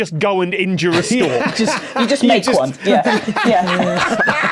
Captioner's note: laughs heartily; group laughing